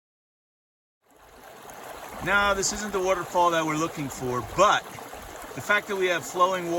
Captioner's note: rushing water